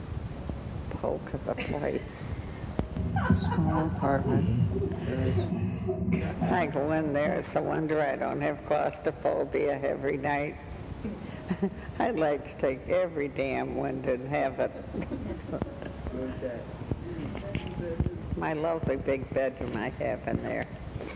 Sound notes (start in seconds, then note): 3.0 laughing on the tape; 11.3 laughing